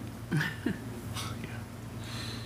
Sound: laughs

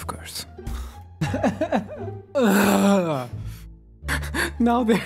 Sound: cries and reconsiders life choices

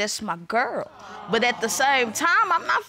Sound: audience awes

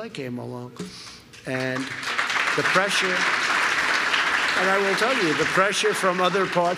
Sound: applause

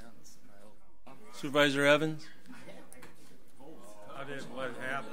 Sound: overlapping chattering

